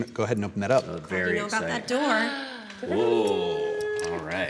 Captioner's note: gasps